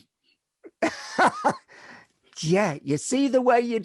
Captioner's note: laughs